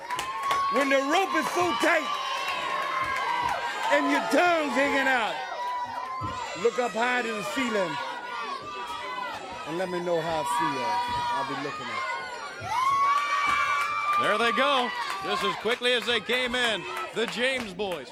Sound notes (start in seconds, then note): 0.1 crowd chatter; 7.6 crowd cheering